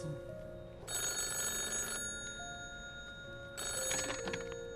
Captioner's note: phone continues ringing